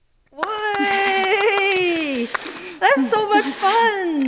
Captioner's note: cheers